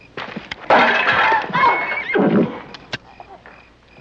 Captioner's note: Mae groans; pots clanging